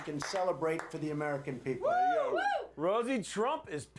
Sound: applause

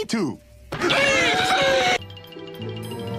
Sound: screaming

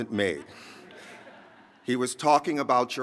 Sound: laughter

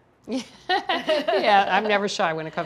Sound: both laughing

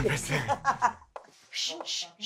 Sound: laughing

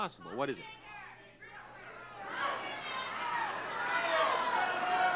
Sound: crowd yelling

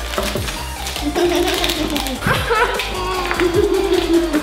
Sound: giggling

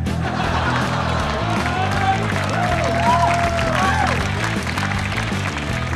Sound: rock & roll music; audience laughing; audience clapping; rock & roll music continues

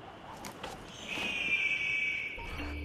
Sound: eagle screech

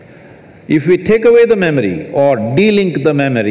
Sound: none

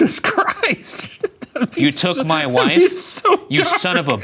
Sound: laughing

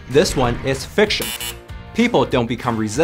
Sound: buzzer buzzing

